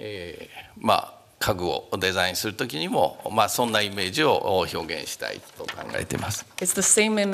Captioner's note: speaking japanese